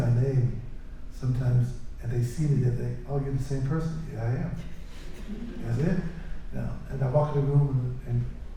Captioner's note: laughter